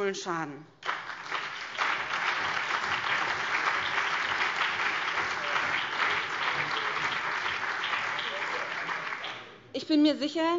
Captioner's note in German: Beifall BÜNDNIS 90/DIE GRÜNEN, CDU, SPD und vereinzelt DIE LINKE